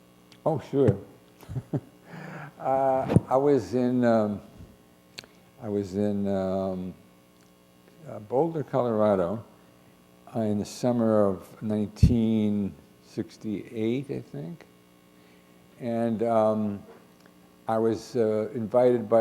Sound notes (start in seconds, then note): 1.4 chuckle